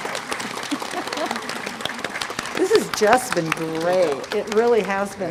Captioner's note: applause